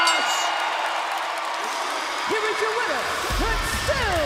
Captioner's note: bell ringing; crowd cheering